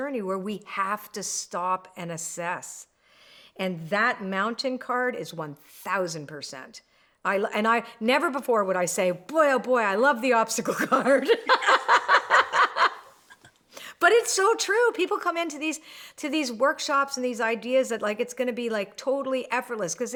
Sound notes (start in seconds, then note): 10.8 both laugh